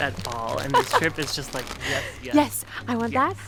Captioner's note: laughs